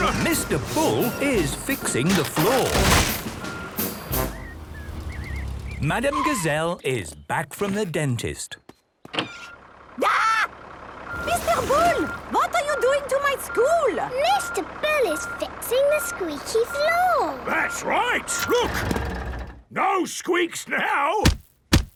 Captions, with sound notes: - (tractor noise, floorboards cracking) - Mr. Bull is fixing the floor. Madam Gazelle is back from the dentist. - (tractor noise) - Arghhh! Mr. Bull! What are you doing to my school?! - Mr. Bull is fixing the squeaky floor! - That's right! Look! No squeaks now!